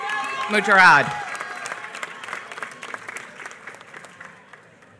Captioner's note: applause